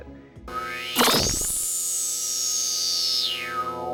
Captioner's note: sound Effects